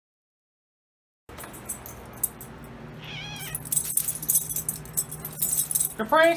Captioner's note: Caprice meows